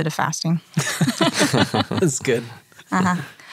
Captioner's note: all chuckle